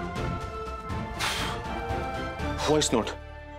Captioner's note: exhales